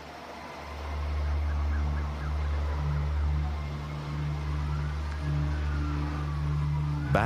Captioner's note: Distant sirens